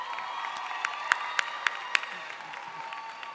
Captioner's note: applause